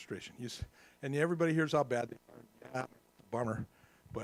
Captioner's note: static